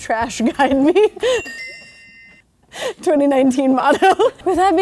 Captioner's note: soft bell dinging